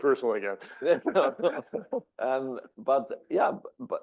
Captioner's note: laugh